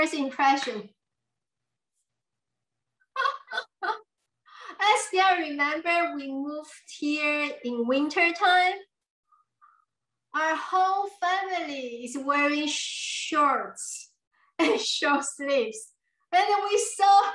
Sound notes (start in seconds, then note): 3.1 laughs